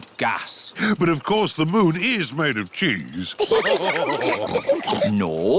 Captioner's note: all laugh